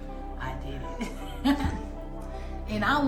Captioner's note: chuckles